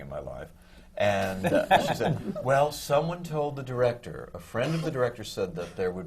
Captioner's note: laughter from the panel